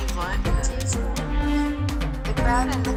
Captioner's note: different woman speaks foreign language